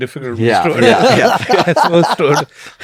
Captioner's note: laughs